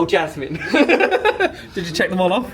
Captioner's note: laughing